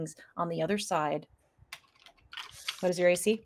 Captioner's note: dice rolls